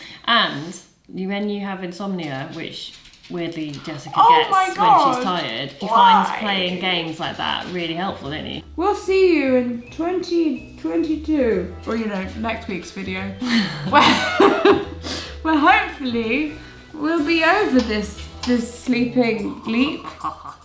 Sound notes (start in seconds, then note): 13.4 they laugh; 20.3 laughs